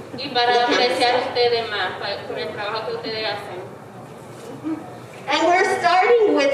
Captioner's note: speaking in foreign language